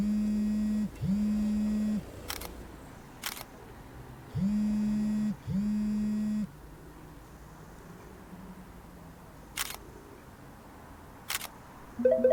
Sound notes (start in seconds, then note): 0.2 phone buzzing; 3.2 camera clicking; 4.6 phone buzzing; 9.7 camera clicking